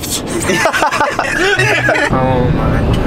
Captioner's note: laughing